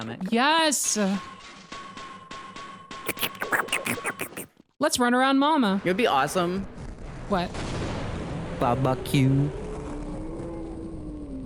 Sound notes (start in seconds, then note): 3.0 makes loud slurping sounds; 9.7 Tentacle roars